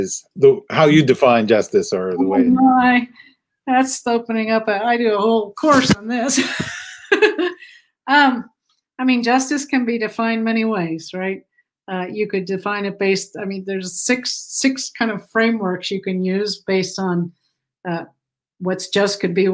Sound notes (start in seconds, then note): 6.3 laughter